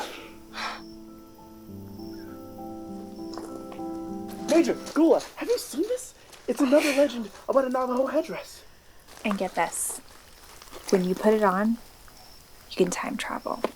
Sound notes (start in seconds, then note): 6.6 chuckles